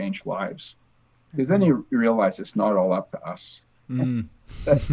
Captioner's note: laughs